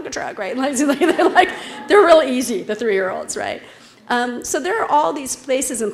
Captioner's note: laugh